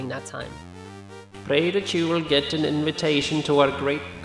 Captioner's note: scroller, read with a dull Swedish accent